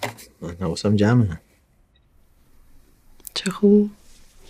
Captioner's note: none